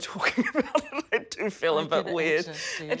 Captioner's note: chuckles